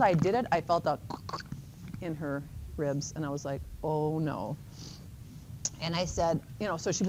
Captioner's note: makes cracking sound